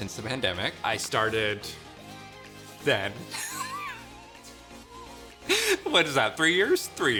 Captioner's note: chuckles